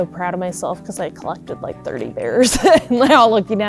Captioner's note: laughs